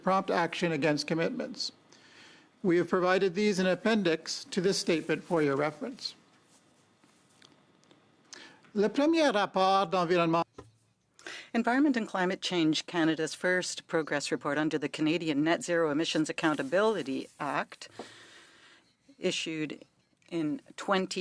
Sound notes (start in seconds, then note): 15.7 speaking in French